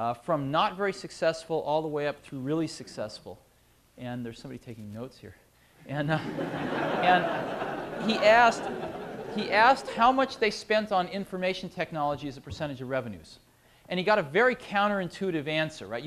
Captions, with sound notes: from not very successful all the way up through really successful. And there's somebody taking notes here. [LAUGHTER] He asked how much they spent on information technology as a percentage of revenues. And he got a very counter-intuitive answer, right?